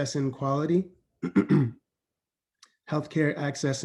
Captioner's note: clears throat